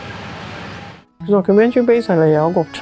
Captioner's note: Cantonese